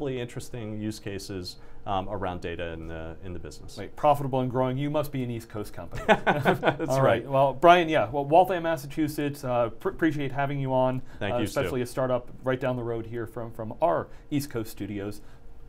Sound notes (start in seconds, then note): 6.0 laughs